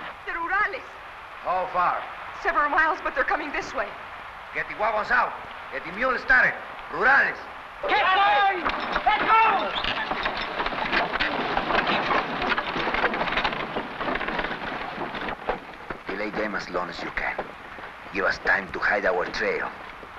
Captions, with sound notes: The Rurales! - How far? - Several miles, but they're coming this way. - Get the huavos out, get the mules started! Rurales! - Get going! Let's go! (carts rattling) (objects clattering) - Delay them as long as you can. You have time to hide our trail.